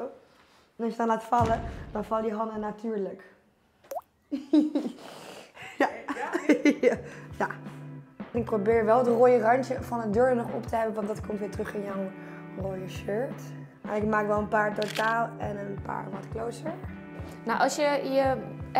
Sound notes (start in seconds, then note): 5.6 lacht